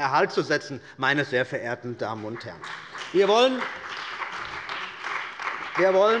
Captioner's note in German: Beifall bei der CDU und dem BÜNDNIS 90/DIE GRÜNEN